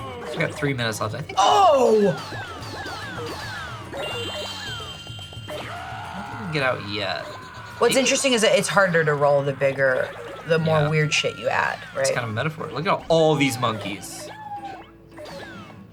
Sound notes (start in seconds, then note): 2.6 objects chiming